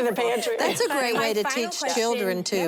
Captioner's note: laughter